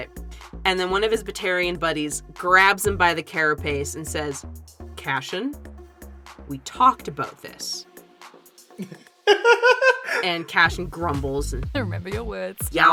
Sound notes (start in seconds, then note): 8.7 laughs